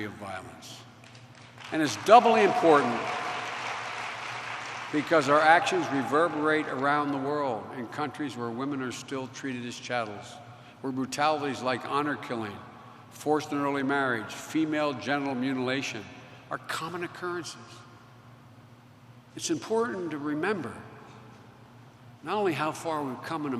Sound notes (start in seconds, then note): 1.0 applause